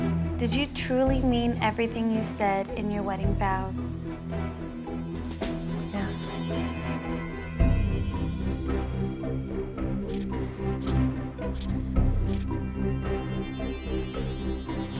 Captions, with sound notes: - Did you truly mean everything you said in your wedding vows? - Yes. (polygraph scratching)